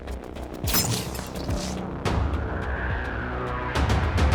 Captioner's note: laser humming